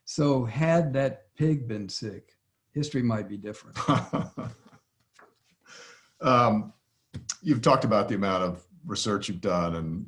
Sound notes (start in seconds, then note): 3.7 laughs